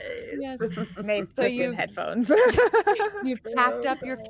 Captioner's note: laughs